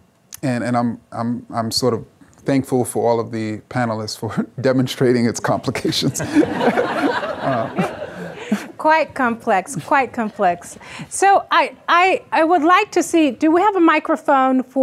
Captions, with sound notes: And I'm sort of thankful for all of the panelists for demonstrating its complications. (audience laughing) - Quite complex, quite complex. So I would like to see, do we have a microphone